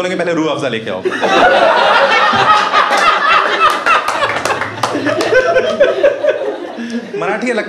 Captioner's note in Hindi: हँसना